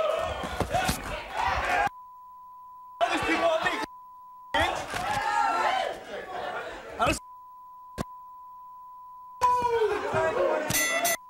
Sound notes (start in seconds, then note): 1.8 beep; 6.0 beep; 10.7 bell dinging; 10.7 beep